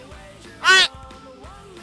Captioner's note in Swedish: baby noise